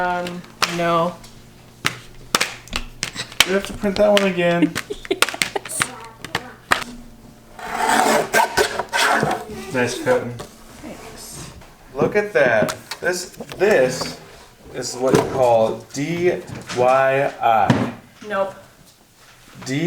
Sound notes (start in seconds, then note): 1.6 laminate crinkles; 4.4 laughs; 7.5 guillotine grinding